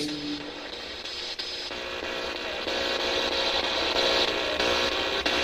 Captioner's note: static buzzing